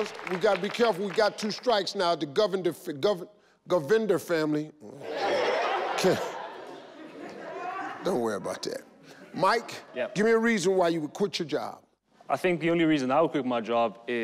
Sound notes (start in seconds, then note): 4.9 audience laugh